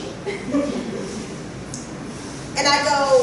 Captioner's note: laughter